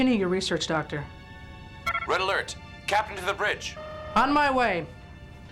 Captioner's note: intercom; klaxon